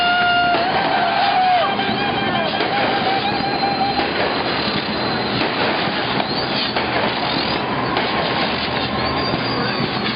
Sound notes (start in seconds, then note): 0.1 fireworks exploding; 3.5 cheering